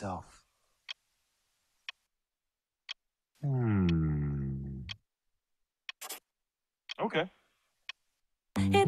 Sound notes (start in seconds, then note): 0.1 clock ticking; 6.0 pencil writing